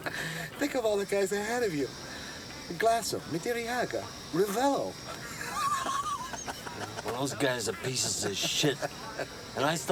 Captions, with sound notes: Think of all the guys ahead of you. Glasso, Madariaga, Revell... [ Laughing ] Well those guys are pieces of shit.